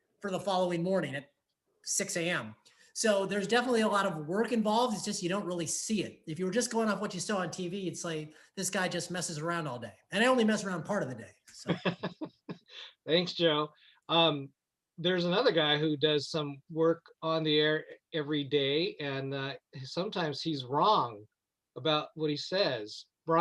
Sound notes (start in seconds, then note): 11.6 laughing